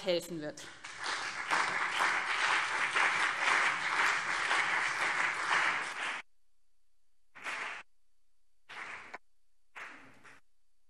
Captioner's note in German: Beifall BÜNDNIS 90/DIE GRÜNEN und CDU